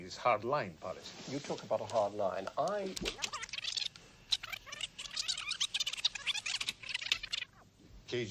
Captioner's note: tape rewind